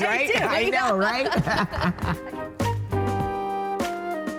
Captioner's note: laughing; happy music